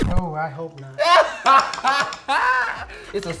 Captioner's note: laughing